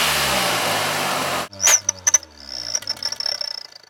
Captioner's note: sick bird chirping in the backgroud